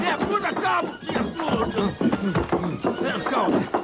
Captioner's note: both shouting